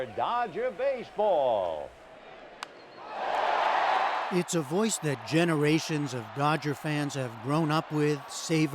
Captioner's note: cheering and applause